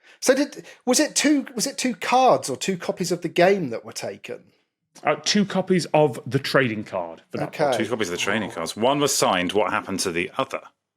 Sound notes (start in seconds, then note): none